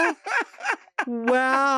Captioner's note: laughing